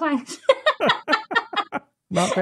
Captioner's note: laughter